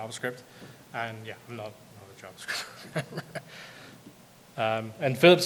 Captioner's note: laughs